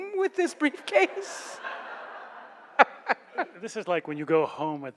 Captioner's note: laughs